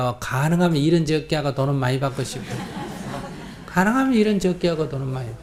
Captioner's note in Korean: 청중 웃음